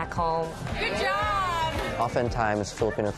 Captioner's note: cheering